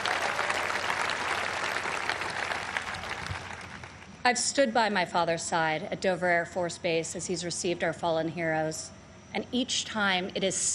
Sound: applause

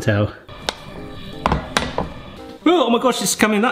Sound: metal clanging

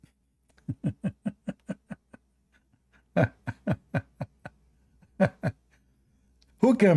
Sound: Ketawa

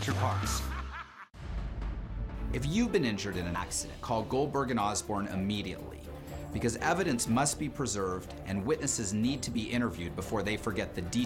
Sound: laughter

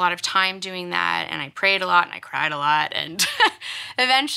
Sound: laughs

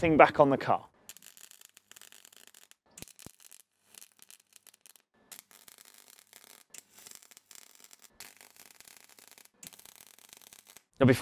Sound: welding crackle

